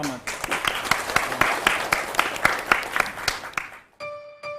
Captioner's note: applause